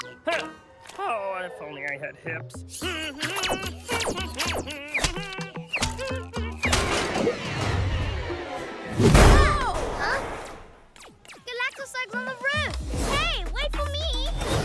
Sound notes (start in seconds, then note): 2.8 humming